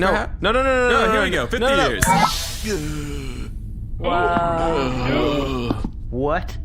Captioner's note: snaps fingers; old man noises, plodding footsteps